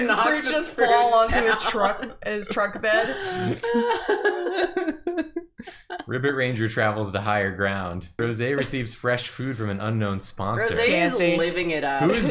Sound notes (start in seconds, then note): 3.1 laughter